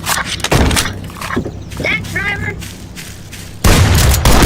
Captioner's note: reloads